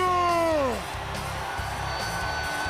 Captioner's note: crowd cheering